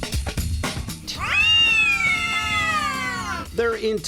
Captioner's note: meowing angrily